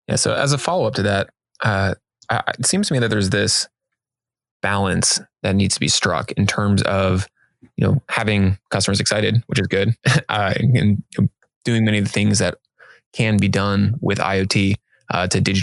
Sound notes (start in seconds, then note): 9.4 chuckling